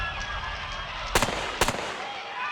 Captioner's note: screaming; gunshots